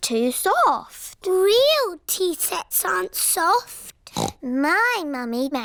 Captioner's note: snorts